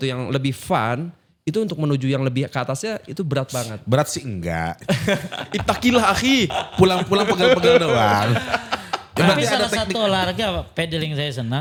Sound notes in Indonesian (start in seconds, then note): 4.8 tertawa